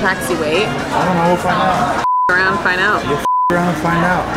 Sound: beep

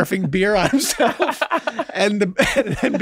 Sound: laughing

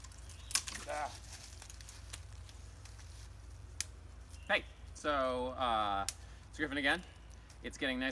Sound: snapping of twigs

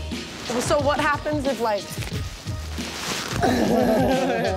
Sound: laughing

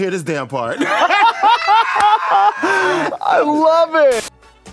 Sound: laughs

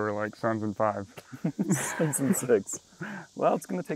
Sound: chuckles

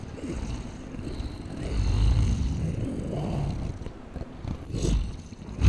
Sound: soft growling

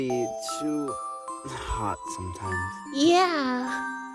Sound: sigh

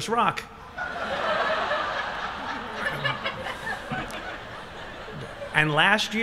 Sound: laughter

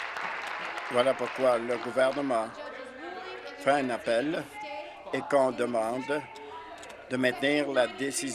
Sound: applause

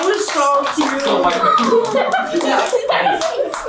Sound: family chatters excitedly; children laugh

